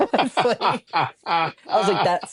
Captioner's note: laughter